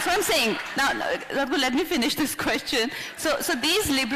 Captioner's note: laughs